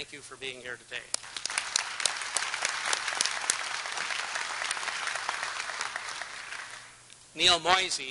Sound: applause

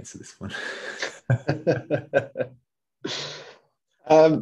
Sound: laughing

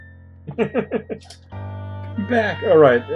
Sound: chuckles

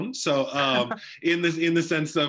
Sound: laughs

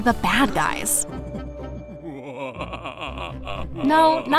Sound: mischievous music; villain cackles

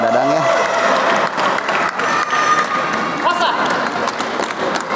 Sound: applause

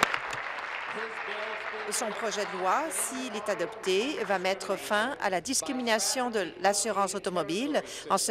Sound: applause

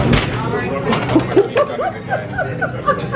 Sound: laughs; object clatters

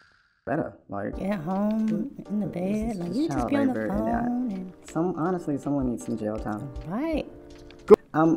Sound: student chatter

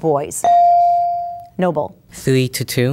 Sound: bell dinging

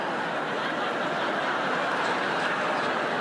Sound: laughter

